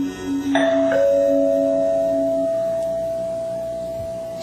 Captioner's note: doorbell